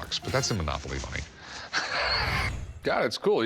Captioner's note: laughs